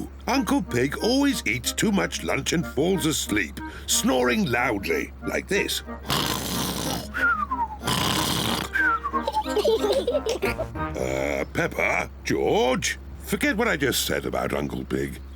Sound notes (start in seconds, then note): 5.9 snores loudly; 8.6 both giggle